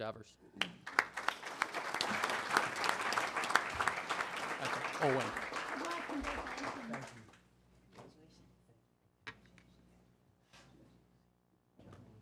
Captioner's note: applause